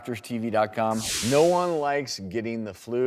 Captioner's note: whooshing